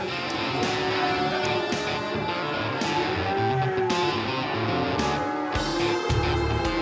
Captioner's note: rain pouring; cattle moo